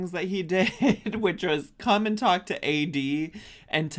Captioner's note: chuckling